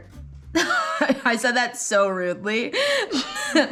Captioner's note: laughs